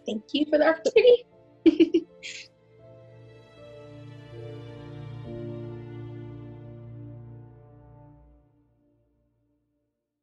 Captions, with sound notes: Thank you for the opportunity. (laughs) (orchestral music)